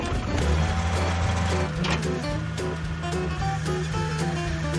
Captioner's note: skidsteer engine roaring